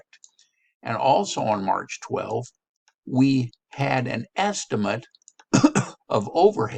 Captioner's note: coughs